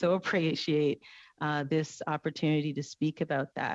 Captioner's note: speaking French